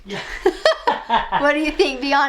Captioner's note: laughing